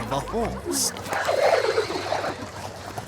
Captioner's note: warbling, distorted neigh